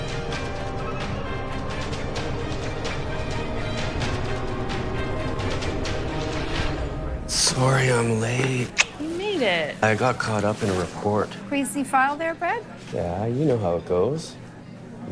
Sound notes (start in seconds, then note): 0.3 music intensifies; 5.9 music ceases; 8.5 kissing